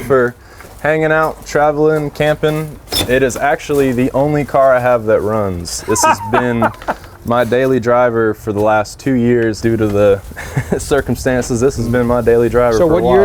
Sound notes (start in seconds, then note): 5.8 laughs